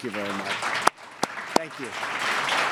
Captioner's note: applause